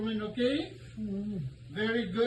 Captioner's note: groans